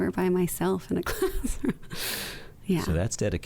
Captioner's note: chuckles